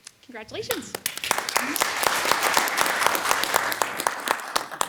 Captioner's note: audience applauding